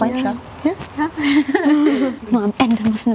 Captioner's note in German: Kichern